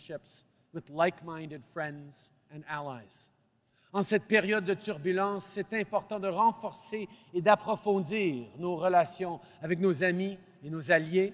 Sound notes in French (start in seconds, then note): none